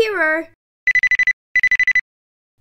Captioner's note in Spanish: Teléfono que suena